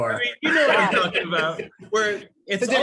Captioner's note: laugh